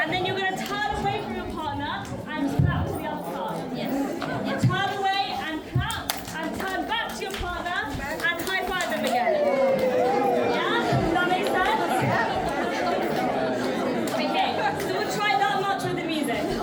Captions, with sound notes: and then you're gonna turn away from your partner and clap to the other partner. Turn away and clap and turn back to your partner and high five them again. Yeah, does that make sense? (children chattering) Okay, so we'll try that much with the music.